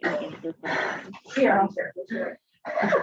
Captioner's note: participant coughs